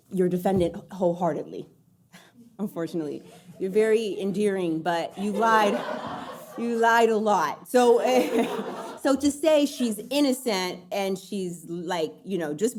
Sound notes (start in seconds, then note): 5.2 audience laughing; 5.2 laughs